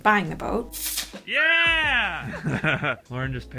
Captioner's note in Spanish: riendo